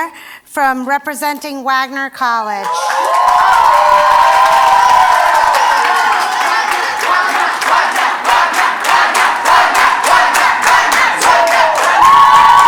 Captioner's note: cheers and Applause